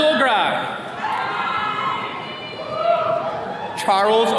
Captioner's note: attendees cheering